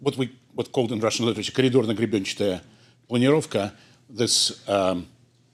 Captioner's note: speaking foreign language